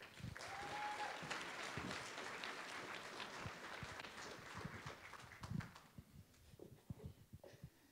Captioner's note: applause